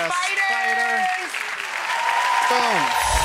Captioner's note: applause